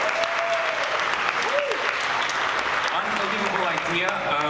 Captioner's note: audience cheers